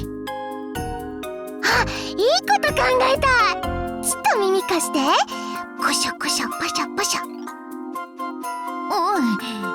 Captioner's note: whisper whisper